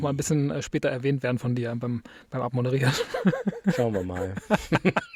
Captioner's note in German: gelächter